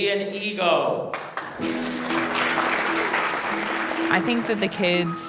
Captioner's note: clapping